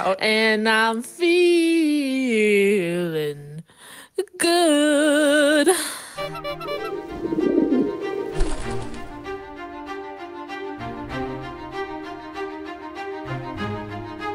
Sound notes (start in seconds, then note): 6.2 upbeat music; 6.4 pigeons cooing; 7.0 bird wings flapping; 8.2 upbeat music